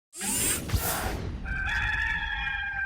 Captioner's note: swoosh; cock crows